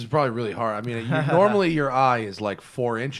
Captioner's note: laughter